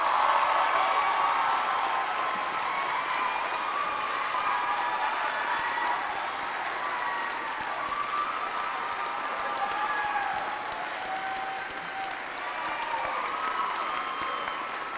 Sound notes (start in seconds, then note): 3.6 applause and cheers